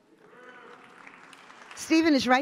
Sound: audience applauds

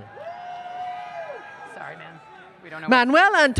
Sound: applause, Cheering

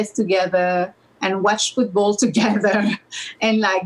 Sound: laughs

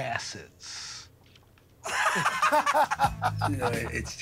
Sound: both laugh

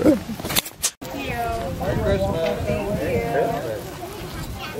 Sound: voices in the background

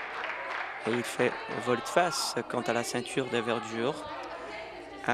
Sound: applause

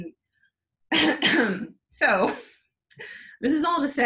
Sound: clears throat

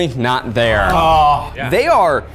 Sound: groans

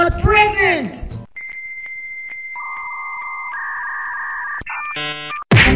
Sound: old internet connection sounds

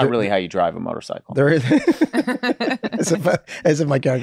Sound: laughs

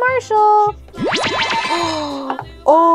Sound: magical noises

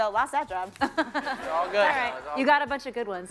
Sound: laughter

